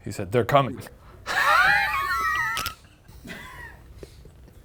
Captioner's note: laughs